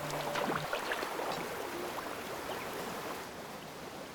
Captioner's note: water rushing